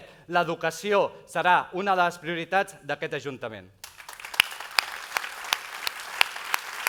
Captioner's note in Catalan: aplaudiments